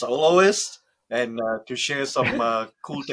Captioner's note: laughs